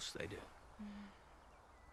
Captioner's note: none